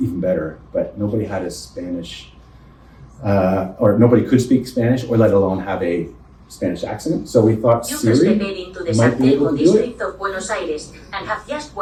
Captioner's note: Robotic voice speaks in Spanish